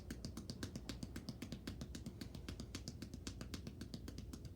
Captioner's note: hands tapping